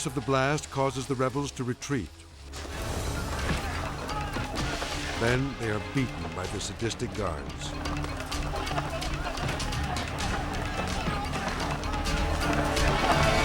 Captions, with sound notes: The force of the blast causes the rebels to retreat. (clubs pounding) Then they are beaten by the sadistic guards. (dramatic music) (inmates yelling)